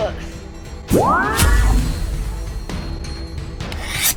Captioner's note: mystical sound